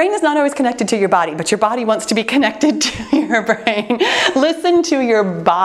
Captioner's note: chuckling